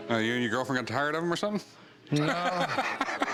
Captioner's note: laughs